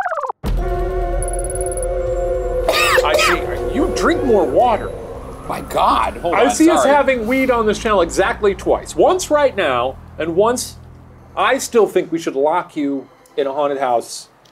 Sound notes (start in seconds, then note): 0.4 suspenseful music; 2.7 coughing